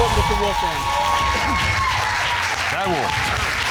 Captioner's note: audience cheering, applauding